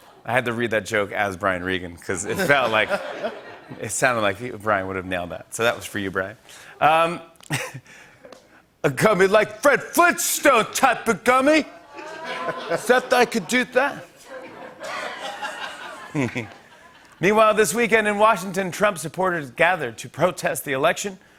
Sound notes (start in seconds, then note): 14.6 laughter; 16.9 normal voice